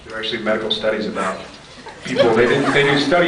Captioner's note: scattered laughs